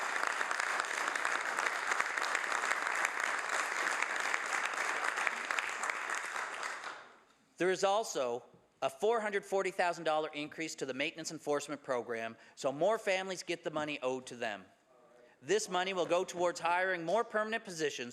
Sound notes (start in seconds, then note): 3.2 some Applause